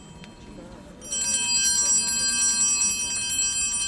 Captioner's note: bell ringing